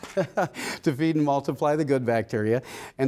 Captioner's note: laughter